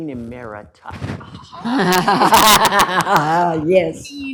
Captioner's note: laughter